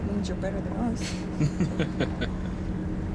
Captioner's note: chuckling